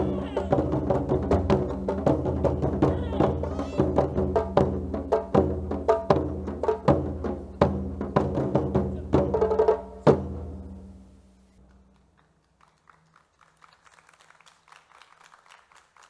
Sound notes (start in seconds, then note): 11.6 crowd clapping